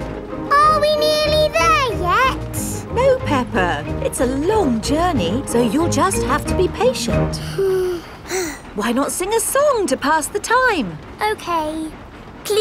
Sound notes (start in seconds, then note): 7.4 both sigh